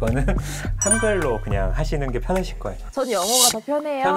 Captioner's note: friendly sound effect